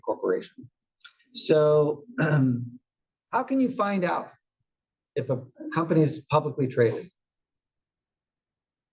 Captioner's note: cough